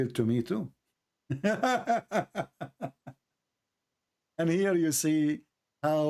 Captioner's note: Ketawa